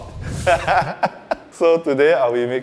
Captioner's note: laughs